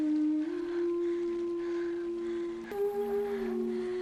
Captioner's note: Rebecca breathing heavily